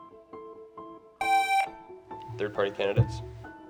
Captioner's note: gentle music; buzzer buzzing